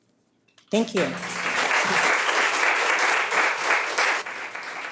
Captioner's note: people applauding